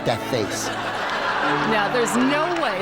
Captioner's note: audience laughs